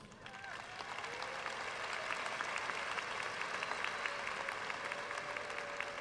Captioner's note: audience cheering and applauding